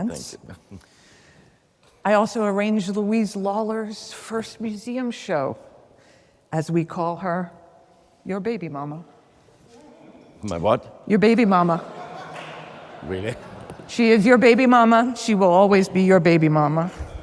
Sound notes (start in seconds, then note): 11.6 audience laughs